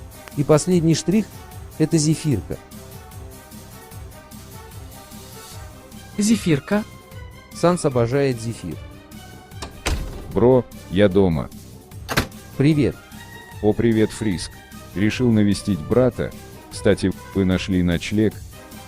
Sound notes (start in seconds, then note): 9.5 door opened; 12.0 door closed